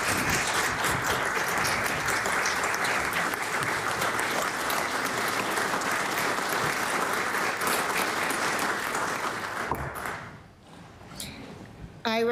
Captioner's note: applause